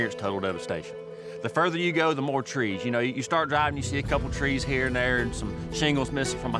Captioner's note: none